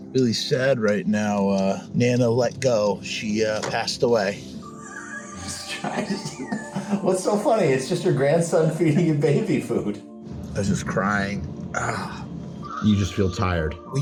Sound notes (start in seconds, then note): 4.6 wheezy laughter; 11.8 sigh